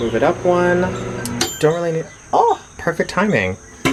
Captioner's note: microwave dings